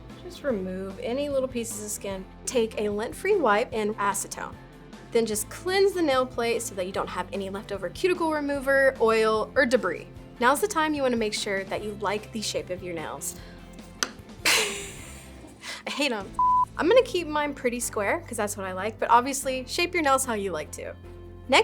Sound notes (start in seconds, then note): 13.8 nail file falling; 14.4 chuckling; 16.4 film beeping